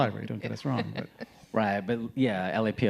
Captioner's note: laughing